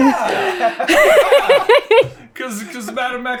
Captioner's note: laughter